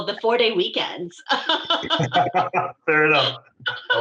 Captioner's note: laughter